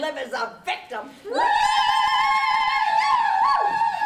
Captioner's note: screams